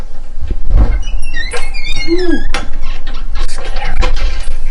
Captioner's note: door creaking